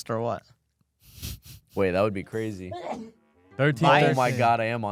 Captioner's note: laughs; coughs